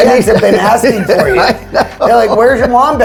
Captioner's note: chuckles